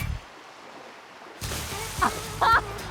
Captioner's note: splash; chuckles